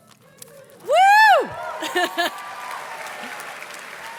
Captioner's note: laughs; audience cheers and claps